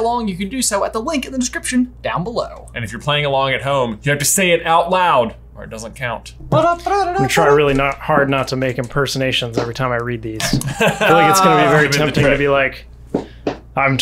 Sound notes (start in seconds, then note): 6.5 humming; 10.4 laugh